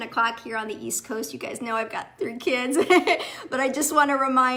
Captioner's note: giggles